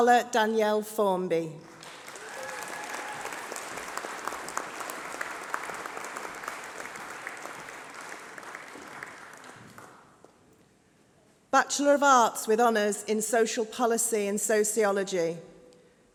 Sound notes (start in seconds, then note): 10.6 applause